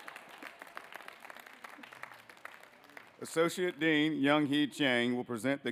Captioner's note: applause